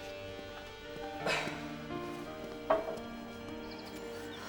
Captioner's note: sighs